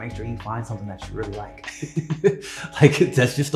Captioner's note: laughs